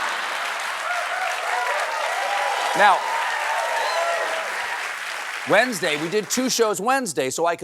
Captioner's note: laughter